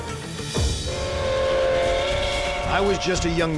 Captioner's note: train whistle